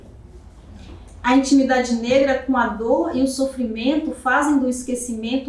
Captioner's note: speaking portuguese